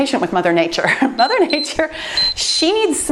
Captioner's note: timer beeps